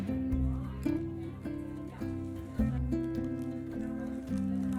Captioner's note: guests talking